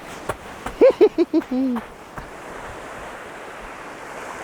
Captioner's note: giggling